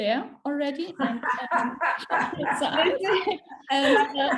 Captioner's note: both laughing